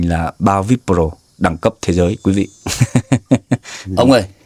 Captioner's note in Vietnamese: tiếng cười